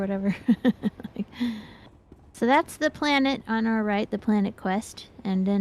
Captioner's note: laughs